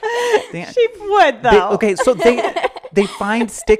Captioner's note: laughing